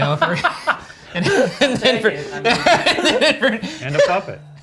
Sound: all laughing

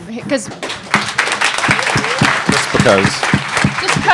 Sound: audience clapping

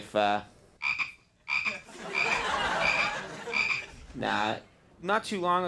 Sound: frog ribbits; audience laughing

